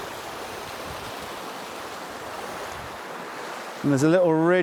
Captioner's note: water splashing